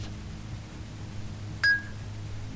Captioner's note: ding